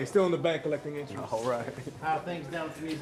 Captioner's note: chuckles